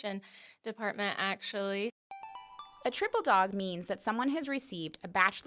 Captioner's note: chime